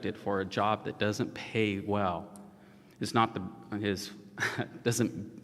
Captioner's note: laughs